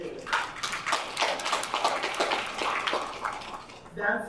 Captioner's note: audience applauding